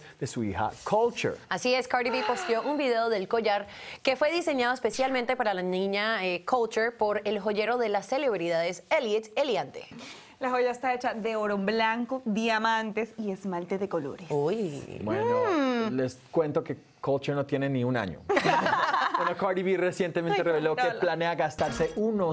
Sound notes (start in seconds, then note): 14.4 Exclamaciones; 18.3 Risas